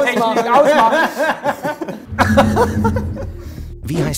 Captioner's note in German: Lachen